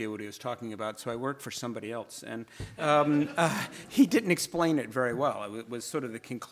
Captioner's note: audience laughs